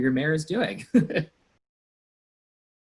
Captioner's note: laughs